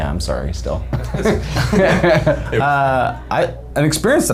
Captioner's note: all laughing